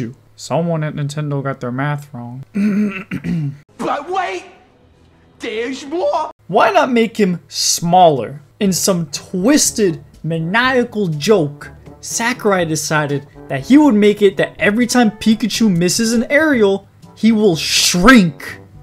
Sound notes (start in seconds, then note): 2.5 clears throat